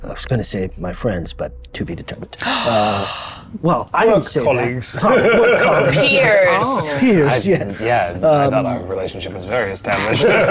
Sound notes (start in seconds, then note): 4.9 laughs; 9.9 group laughs